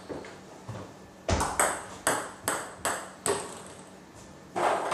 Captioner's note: ball ping pong hitting continues